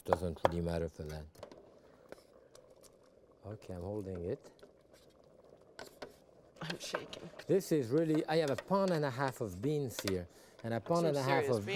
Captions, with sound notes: doesn't really matter for that. Okay, I'm holding it. (cassoulet bubbling) - I'm shaking. - This is really, I have a pound and a half of beans here and a pound and a half- - So, serious beans.